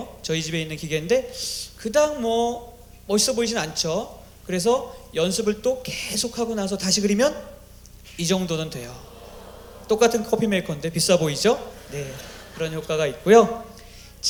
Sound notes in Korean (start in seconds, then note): 8.8 감탄; 12.4 웃음